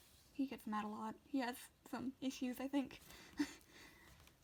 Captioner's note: laughs?